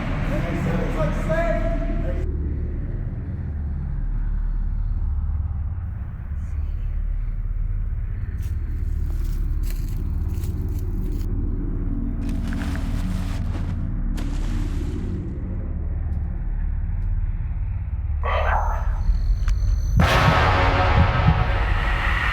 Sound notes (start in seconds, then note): 5.5 ominous music; 8.3 leaves crunch; 10.9 ominous music; 11.8 tarp rustles; 14.1 water splashes; 18.4 ominous musical score; 20.3 dramatic musical score; 22.1 wind whooshes